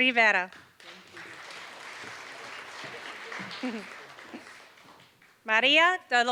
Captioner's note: applause